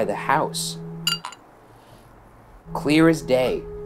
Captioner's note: glass clinking